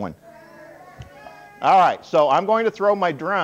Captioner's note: audience response